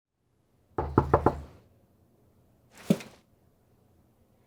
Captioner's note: door knocking